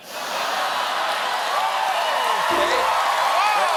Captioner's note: cheers and applause; laughter; piano riff